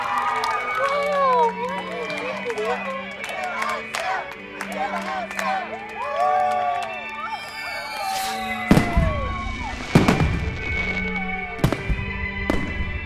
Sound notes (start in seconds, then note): 3.3 chanting; 7.8 fireworks explode